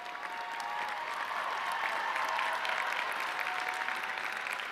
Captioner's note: audience cheering